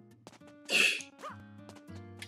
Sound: scoffs

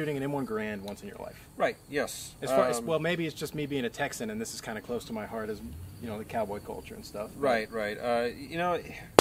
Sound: none

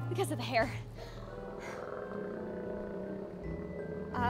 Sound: low growl

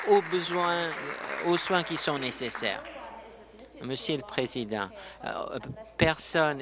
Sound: applause

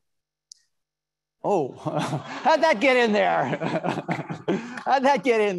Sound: laughs

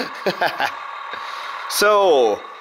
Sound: laughing

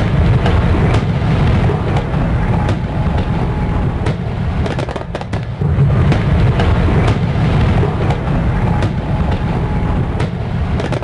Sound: fireworks

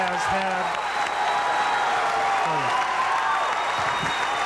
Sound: audience applauding

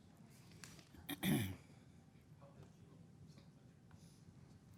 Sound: man clears throat

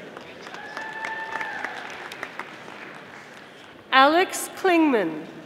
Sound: audience applauding

